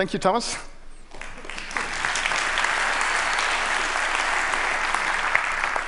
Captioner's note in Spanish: Aplausos